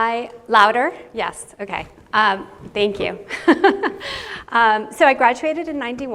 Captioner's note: chuckles